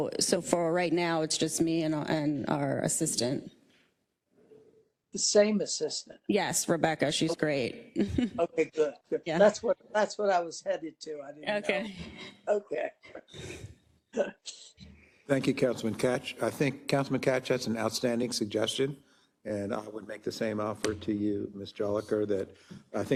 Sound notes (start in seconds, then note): 13.0 laugh